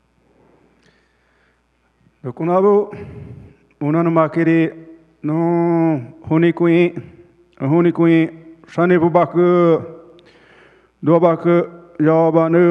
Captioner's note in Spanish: Ponente habla en portugués